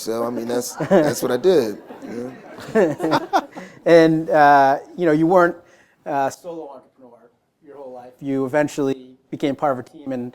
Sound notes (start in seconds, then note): 2.6 laughter